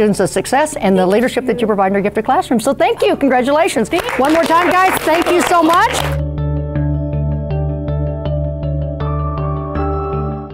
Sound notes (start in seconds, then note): 5.8 applause; 6.6 upbeat music